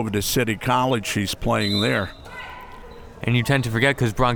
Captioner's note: whistle tweeting